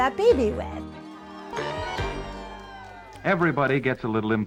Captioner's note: people cheering